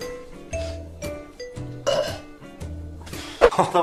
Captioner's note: sniffs....gags